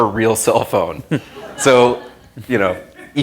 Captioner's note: laughter